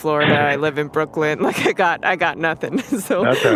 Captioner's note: both laugh